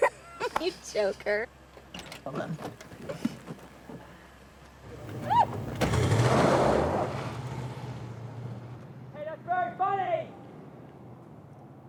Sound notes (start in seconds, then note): 0.4 laughs; 4.9 engine revving; 5.2 Jenny shouts